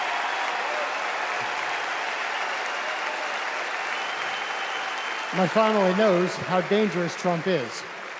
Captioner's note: applause; cheers and applause